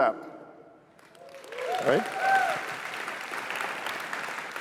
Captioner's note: cheers, applause